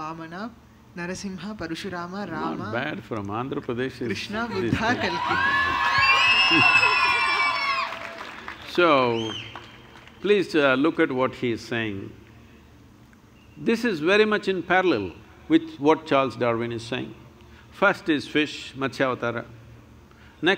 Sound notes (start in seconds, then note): 7.6 cheers/Applause